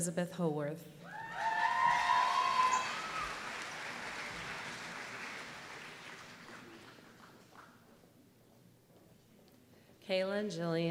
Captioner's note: applause